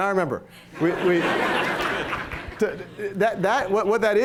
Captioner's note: laughter